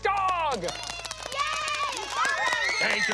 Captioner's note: cheering